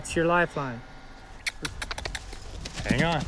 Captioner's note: clicking tongue